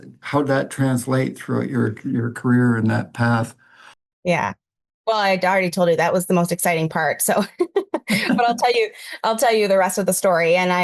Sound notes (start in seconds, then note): 7.9 laughing